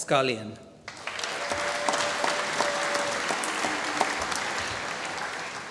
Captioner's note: applause